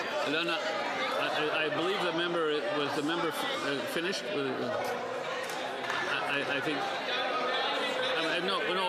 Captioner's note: speaking French